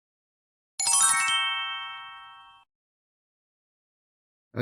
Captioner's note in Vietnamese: tiếng chuông